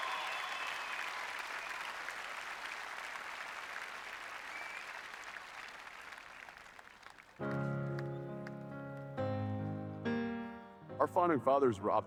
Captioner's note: applause